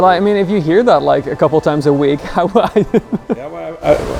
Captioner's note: laughing